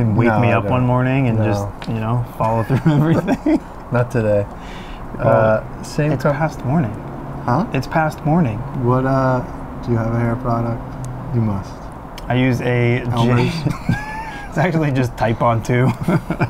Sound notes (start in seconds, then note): 2.4 laughs; 13.1 laughs